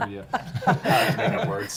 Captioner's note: laughing